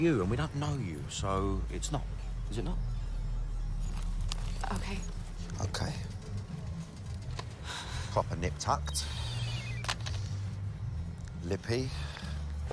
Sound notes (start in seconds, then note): 6.9 sighs; 9.2 cell phone beeping